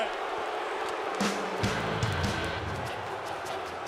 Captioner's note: crowd cheering